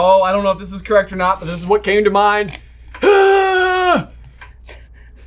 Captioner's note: yells